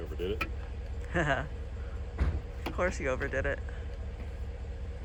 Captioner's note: chuckles